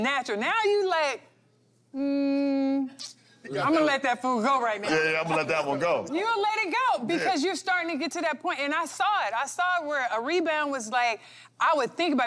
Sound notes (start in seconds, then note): none